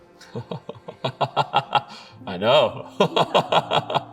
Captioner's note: laughing; laughs